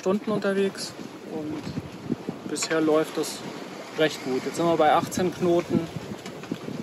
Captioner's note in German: Wind